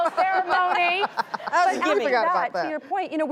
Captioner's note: laughing